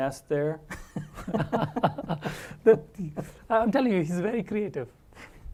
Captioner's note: laugh